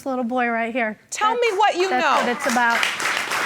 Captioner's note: audience applauding